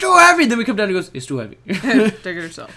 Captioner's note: chuckle